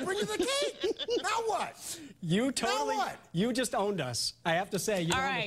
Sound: laughter

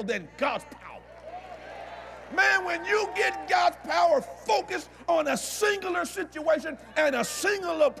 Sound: audience Agrees

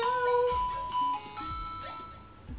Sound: alarm goes off

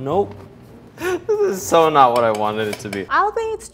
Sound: laughs; taps spoon

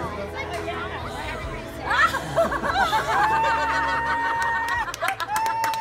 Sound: excited shouting and laughter

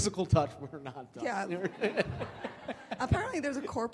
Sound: laughs

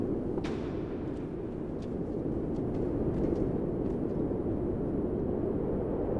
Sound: wind blowing

